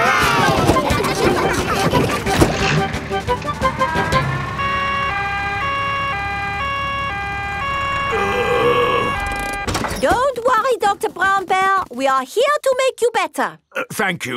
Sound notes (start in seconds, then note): 0.3 giggling; 5.1 siren wailing; 8.0 groaning